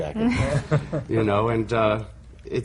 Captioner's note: laughter